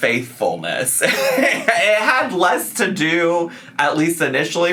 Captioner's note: laughing